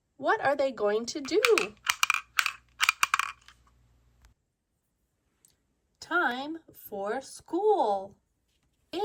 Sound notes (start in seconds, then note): 1.6 metal clanks rhythmically